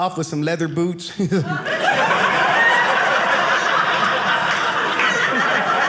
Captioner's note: audience laughing